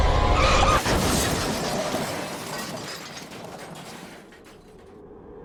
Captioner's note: crash, scream, breaking glass